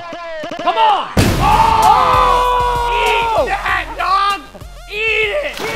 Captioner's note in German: shouting